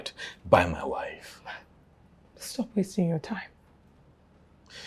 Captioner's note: scoffs